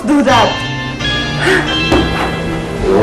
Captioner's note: scoffs